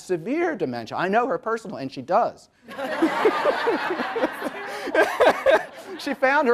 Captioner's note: audience laughs